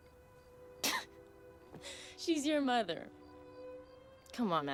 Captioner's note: laughs